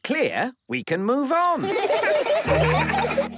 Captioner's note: laughter